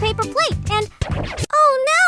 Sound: record scratch

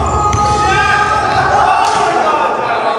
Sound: yelling

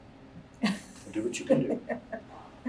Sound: laughs

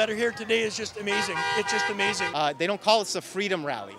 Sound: car honks

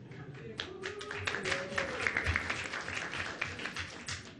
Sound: applause

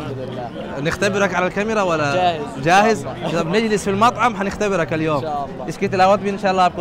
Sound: Arabic

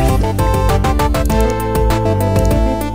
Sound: mouse clicking

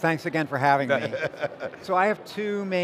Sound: laughing

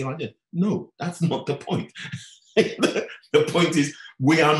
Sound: laughing

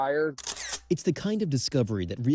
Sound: camera shutter sound

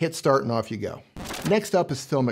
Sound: digital scratching

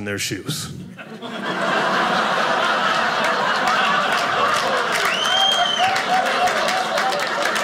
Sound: audience laughing

